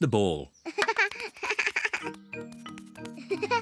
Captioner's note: laughs